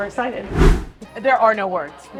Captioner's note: air whooshing